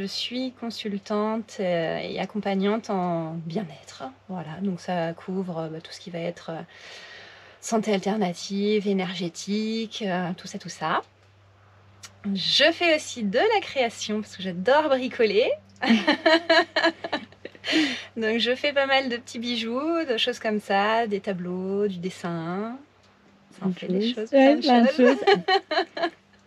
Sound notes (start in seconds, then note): 15.8 laughs